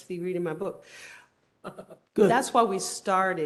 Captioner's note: laughter